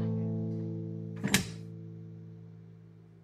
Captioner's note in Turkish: Kapı açıldı